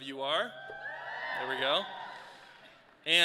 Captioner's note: students cheer